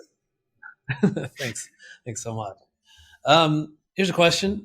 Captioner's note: laughs